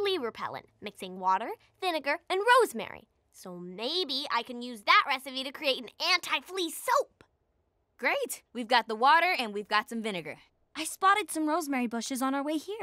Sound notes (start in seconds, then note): none